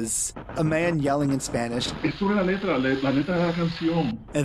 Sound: Spanish

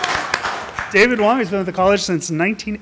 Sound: applause

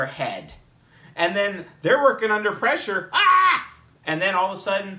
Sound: shrieks

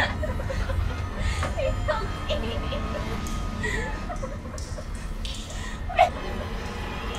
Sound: sobs

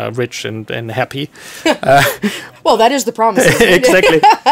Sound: laughing

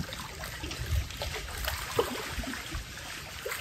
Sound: water lapping

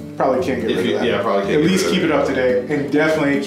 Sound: voiceover

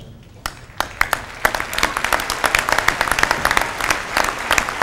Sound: applause

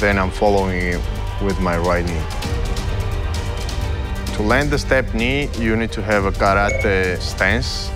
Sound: none

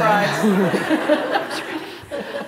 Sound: laughter

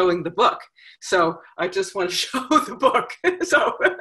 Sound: laughs

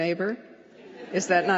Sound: laughter

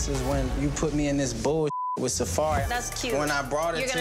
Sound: beep

